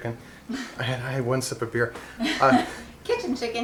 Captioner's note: laughing